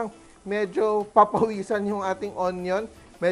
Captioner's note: sizzle